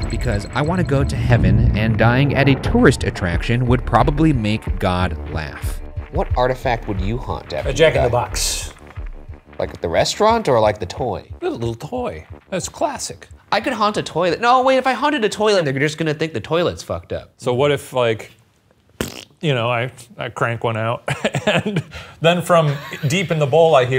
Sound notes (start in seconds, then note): 19.0 imitates farting